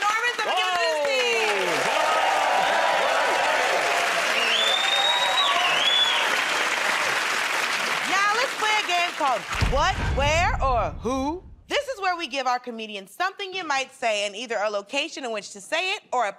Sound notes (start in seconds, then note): 4.8 cheers and applause